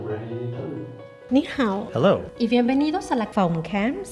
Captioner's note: speaking foreign language